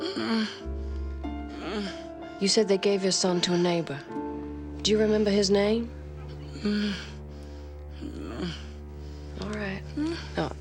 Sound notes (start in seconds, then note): 0.0 Lilly groans; 8.0 Lilly groans